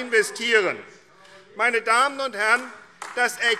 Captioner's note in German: Vereinzelter Beifall AfD